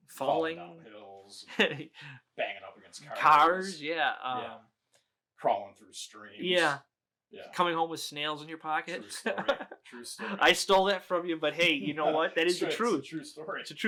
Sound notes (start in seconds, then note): 1.5 chuckles; 8.9 laughing